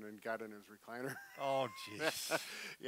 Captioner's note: laughs